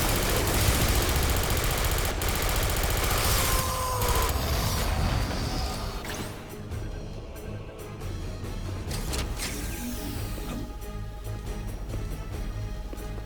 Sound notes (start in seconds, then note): 0.0 dramatic music; 0.0 gun firing; 3.2 screaming; 5.5 dramatic music